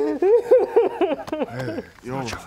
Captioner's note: sobs